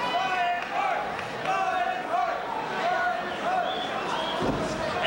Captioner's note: crowd chanting